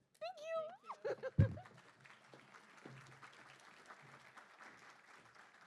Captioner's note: applause